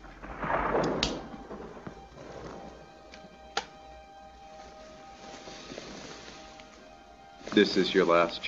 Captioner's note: thunder rumbling